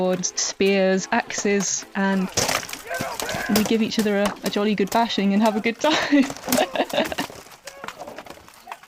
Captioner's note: laughs